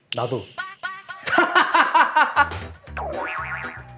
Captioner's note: bursts out in laughter